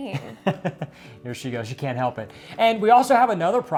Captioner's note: chuckles